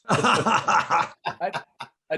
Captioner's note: laughing